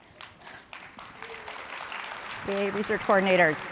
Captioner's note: applause